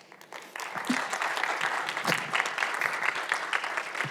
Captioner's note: audience applauds